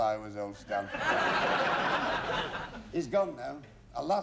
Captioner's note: laughter